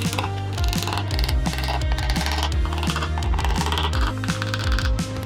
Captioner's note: drill whirring